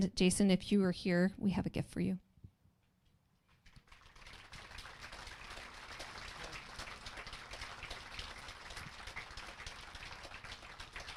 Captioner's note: applause